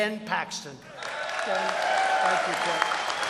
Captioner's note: applause